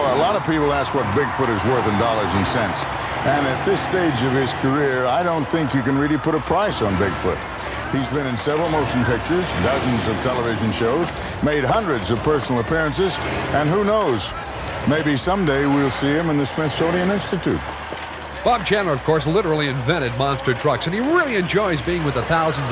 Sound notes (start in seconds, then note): 0.0 voiceover; 7.4 voiceover; 12.4 voiceover; 18.0 engines revving